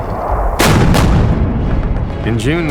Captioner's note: artillery firing